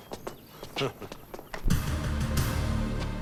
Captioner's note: Kurt laughs; slow dramatic music